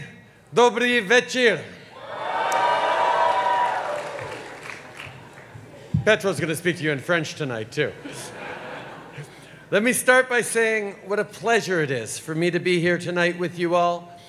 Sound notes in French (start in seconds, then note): 1.9 Acclamations; 8.0 Rires